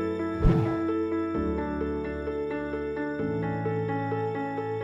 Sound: graphic swooshes

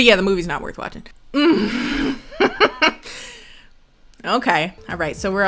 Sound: laughs

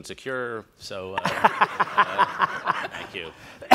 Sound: all laugh

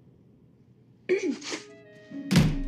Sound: clears throat

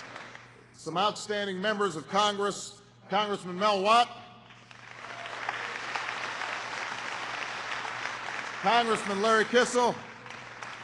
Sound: applause; applause

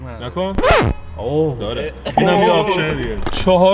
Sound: honk

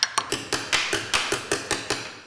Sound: metal banging

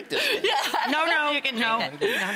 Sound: laughing

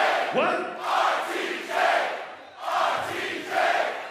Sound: crowd

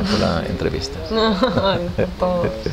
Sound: laughts

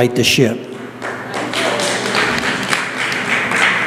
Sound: applause

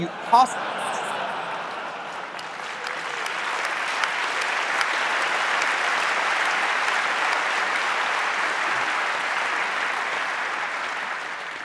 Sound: laughter, applause

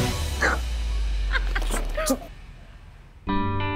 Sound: giggling

